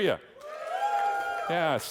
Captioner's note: audience yelling